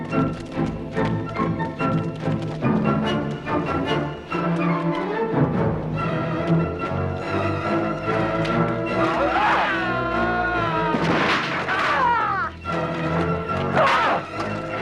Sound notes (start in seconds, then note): 9.1 guard screaming; 9.4 Hundra grunts; 11.9 Hundra grunting